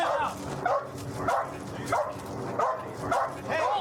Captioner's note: dog barking